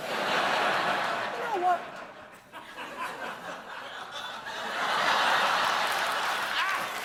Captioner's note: laughter; applause